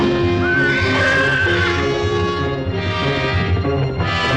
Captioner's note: horse neighing